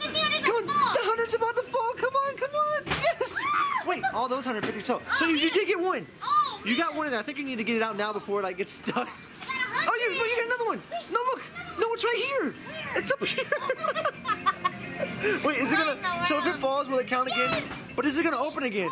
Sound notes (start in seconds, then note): 14.6 both laughing